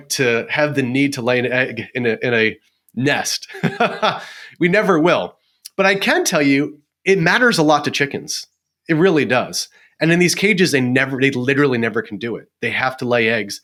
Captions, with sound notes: to have the need to lay an egg in a nest. (laughs) We never will. But I can tell you it matters a lot to chickens. It really does. And in these cages they literally never can do it. They have to lay eggs